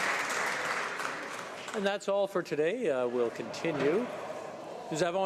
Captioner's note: some Applause